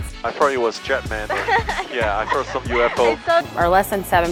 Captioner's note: woman laughing